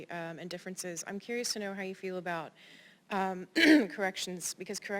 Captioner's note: cough